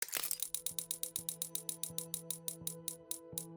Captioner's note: projector clicking